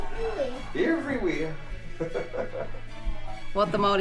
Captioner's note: laughs